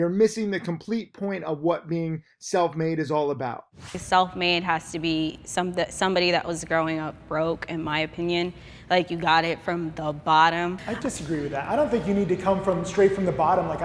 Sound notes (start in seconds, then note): 3.8 air whooshes